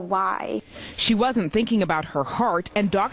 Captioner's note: voiceover